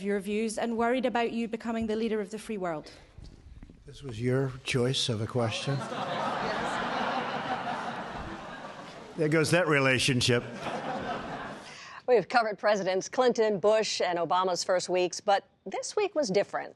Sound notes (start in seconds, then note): 5.7 laughter; 10.4 laughter